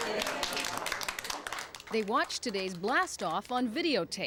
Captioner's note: clapping